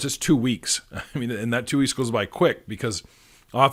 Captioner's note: chuckling